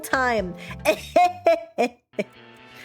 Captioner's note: eh heh heh heh!